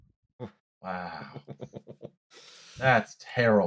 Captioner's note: chuckles softly